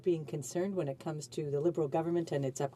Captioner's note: speaking french